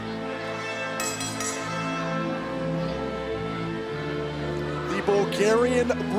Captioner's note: bell dinging